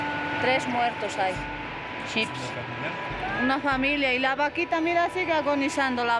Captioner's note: observer speaking in foreign language